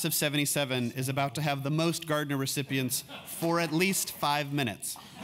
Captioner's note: laugh